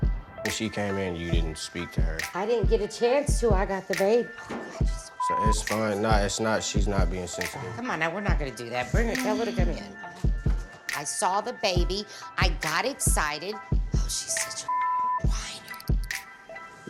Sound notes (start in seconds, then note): 5.1 beep; 14.6 beep